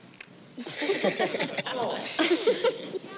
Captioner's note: laughter